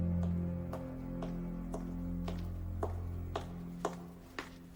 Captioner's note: footsteps clicking